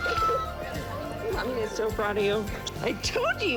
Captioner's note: kisses